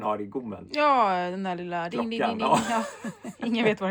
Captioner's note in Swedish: skratt